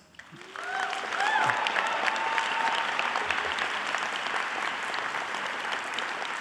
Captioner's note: applause